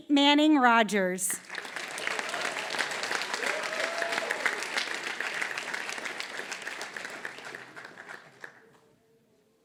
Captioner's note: applause